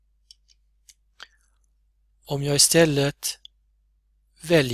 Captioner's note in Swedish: klickar